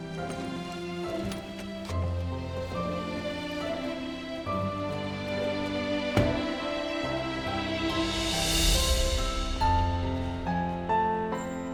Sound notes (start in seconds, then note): 3.6 heartwarming music; 6.1 car door closes